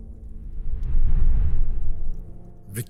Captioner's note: whoosh